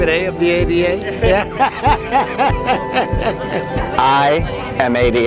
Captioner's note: laughing